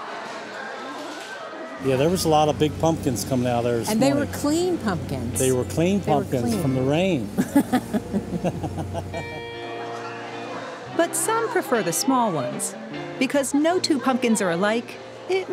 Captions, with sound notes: YEAH, THERE WAS A LOT OF BIG PUMPKINS COMING OUT OF THERE THIS MORNING. AND THEY WERE CLEAN PUMPKINS. THEY WERE CLEAN PUMPKINS FROM THE RAIN. [LAUGHTER] SOME PREFER THE SMALL ONES. BECAUSE NO TWO PUMPKINS ARE ALIKE,